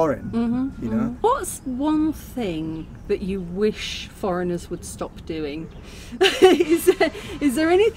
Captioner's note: laughing